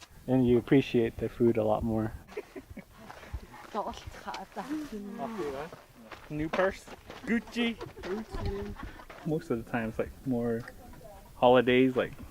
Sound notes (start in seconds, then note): 3.6 speaking Navajo; 7.6 laughter